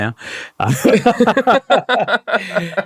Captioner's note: laughing